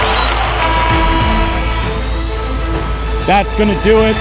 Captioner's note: audience cheering; timer ringing